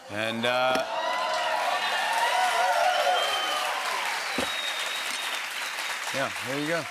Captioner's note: cheers and applause